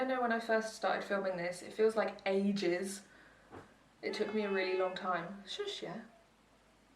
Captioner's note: car horn